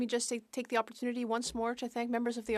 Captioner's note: speaking French